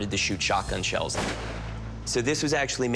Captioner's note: gun fires